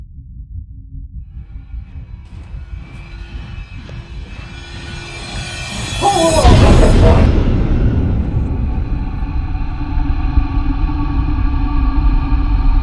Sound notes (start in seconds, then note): 1.8 dramatic, tense music; 6.0 Ryan yells; 9.0 dramatic, tense music